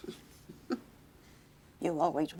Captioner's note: chuckling